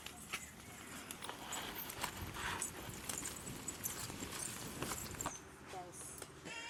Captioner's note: lingering sounds of their bangles & leg chains…